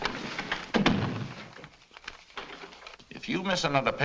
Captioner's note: door thuds shut